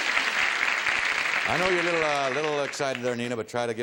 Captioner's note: applause